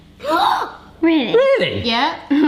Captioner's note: gasps